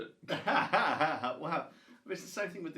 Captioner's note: both laugh